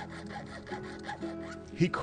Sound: flint rubbing

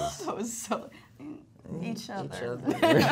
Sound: Alisha laughs

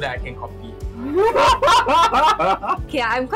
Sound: laughs

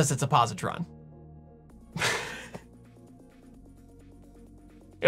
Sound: giggle

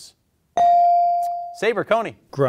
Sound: bell ringing

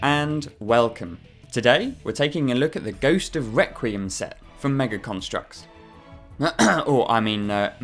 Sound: ahem

